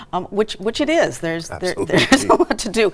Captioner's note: laughs